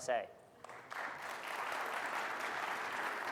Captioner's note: audience applauding